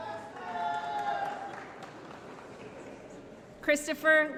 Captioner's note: applause & Cheering